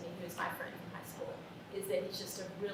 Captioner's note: none